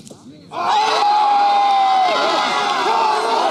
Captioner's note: US Cheering